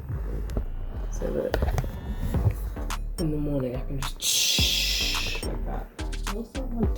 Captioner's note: psshhhhh